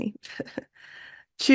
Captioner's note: laughs